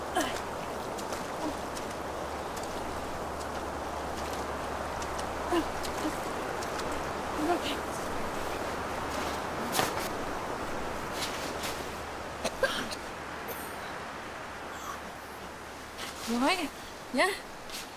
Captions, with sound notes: (Anna grunting) (Anna grunting) (Lily coughing) - You all right, yeah?